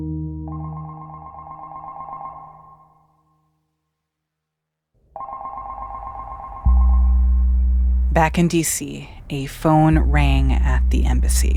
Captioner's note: soundbite of telephone ringing